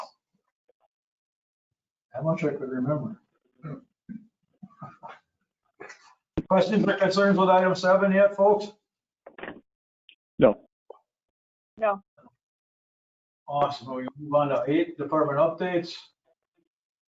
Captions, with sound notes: I'm not sure if we're in heaven. (laughing together) Questions and concerns with Item Seven yet folks? No. No. Awesome, department updates?